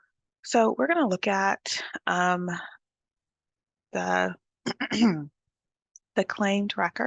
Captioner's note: clears throat